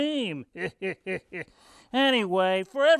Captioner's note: Oscar laughs